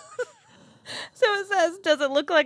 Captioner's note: wheezing